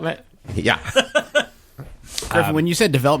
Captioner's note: laughs